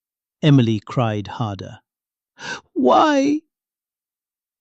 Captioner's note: sobs